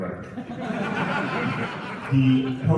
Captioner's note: laughter